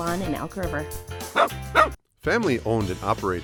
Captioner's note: dog barking